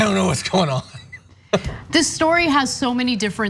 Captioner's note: laugh